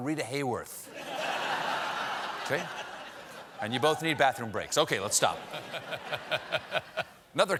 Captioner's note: laughter